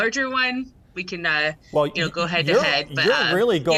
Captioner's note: laughs